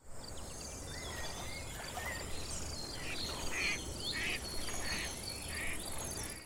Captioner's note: birds chirping